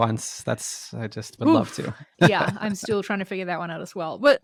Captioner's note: laughs